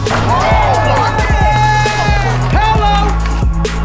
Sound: crowd cheering

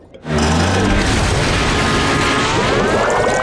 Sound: thudding

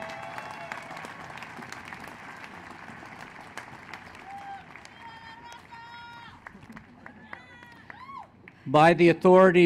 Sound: applause

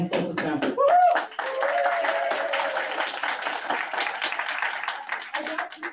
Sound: audience claps and cheers

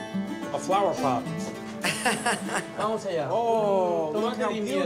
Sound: laughs

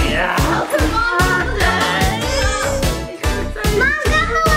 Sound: overlapping chatter and music

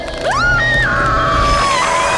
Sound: fangs slurping; Marceline screams; light whooshing

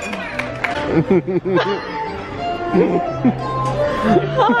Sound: clapping; laughter

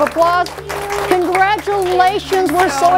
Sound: clapping

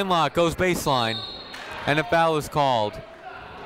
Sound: whistle tweeting

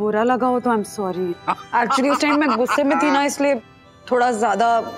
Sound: laughs

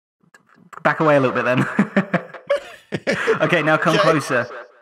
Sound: chuckles

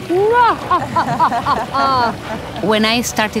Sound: laughing; ladies laughing

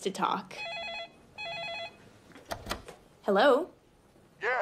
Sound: phone rings

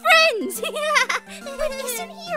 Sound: laughs nervously

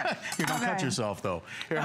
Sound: laughter

